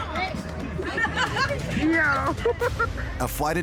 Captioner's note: woman, laughing